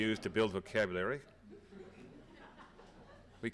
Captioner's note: laughter